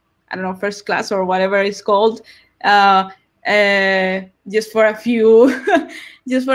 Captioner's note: laughs